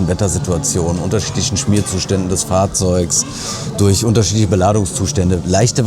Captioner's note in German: schnauben